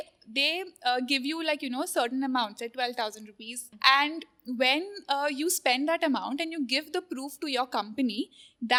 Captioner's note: none